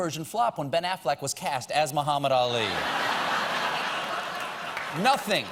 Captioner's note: laughter